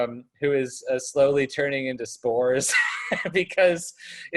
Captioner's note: laughs